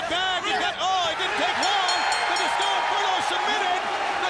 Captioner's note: bell ringing